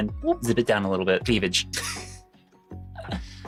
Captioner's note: laughs